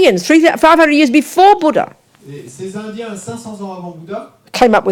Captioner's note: audience member speaks in French